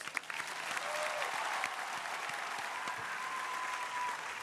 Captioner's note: crowd applauding